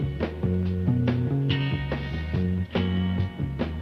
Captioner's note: none